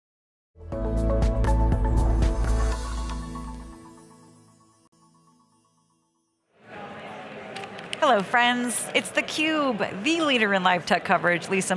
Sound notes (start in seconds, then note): 0.7 bright music; 3.8 text whooshing and twinkling